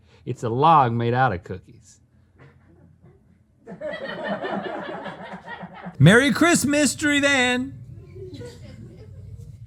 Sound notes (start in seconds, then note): 2.4 laughter